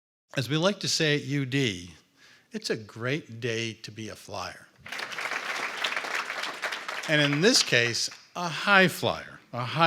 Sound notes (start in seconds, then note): 4.8 audience applauds